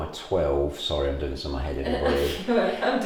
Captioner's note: laughs